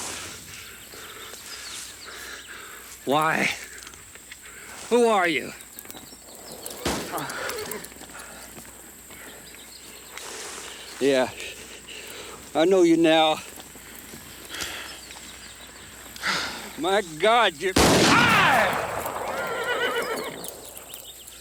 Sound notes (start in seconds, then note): 0.1 Anthony pants; 7.2 horse neighs; 17.7 gun fires; 18.1 horse neighs; 18.1 Anthony groans